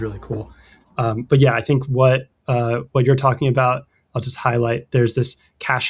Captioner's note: uh